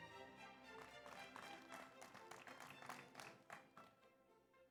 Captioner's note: audience applauds